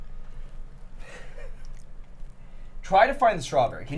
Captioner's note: laughs